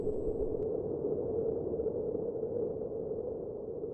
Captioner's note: wind blowing